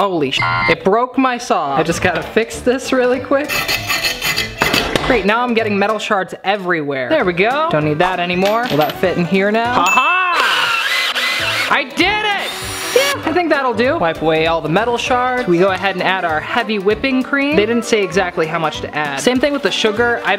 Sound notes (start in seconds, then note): 0.3 beep; 3.4 hand saw scrapes; 9.8 bell dings; 12.2 drill whirls